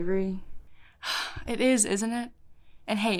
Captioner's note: sighs